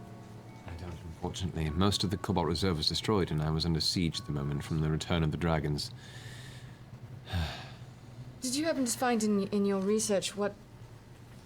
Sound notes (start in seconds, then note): 7.2 sighs